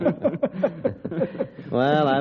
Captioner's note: laughter